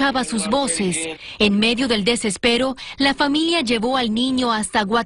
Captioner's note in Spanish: hablando en inglés